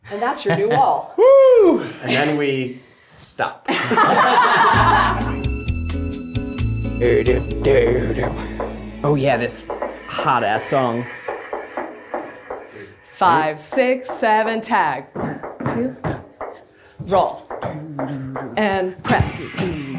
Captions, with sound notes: - And that's your new wall. - And then we stop. (everyone laughs) (upbeat music) Oh yeah. This hot ass song. - 5, 6, 7 tag. 2, roll and press.